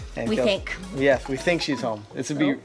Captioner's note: phone beeps